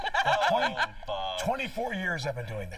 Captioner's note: laughter